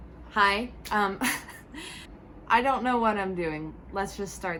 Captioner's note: laughs